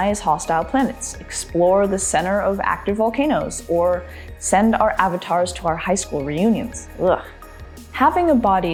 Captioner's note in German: ugh